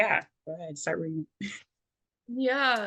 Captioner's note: laughs